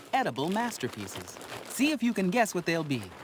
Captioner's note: bag rustles